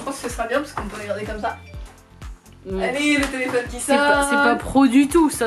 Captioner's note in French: Bruit de téléphone